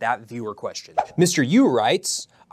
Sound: air whips

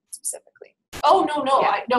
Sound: voiceover

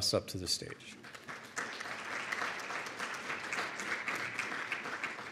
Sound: audience applauding

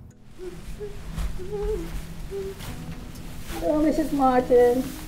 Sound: Mrs. Martin whimpers

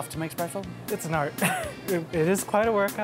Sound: chuckles

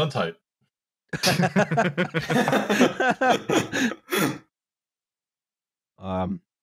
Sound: laughter

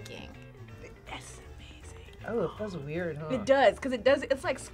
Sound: whispers

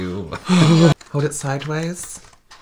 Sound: sigh

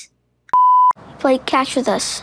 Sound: beep

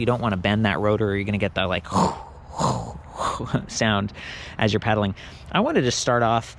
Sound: whooshing

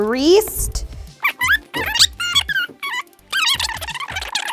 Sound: voice in fast forward

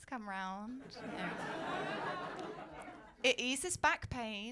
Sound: laughter

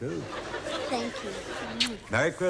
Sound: audience laughing; smooching

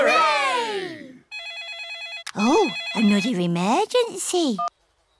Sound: phone rings

